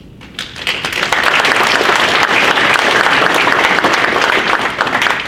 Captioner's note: audience applauds